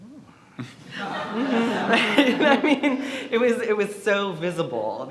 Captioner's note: audience laughs